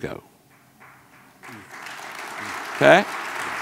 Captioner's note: audience clapping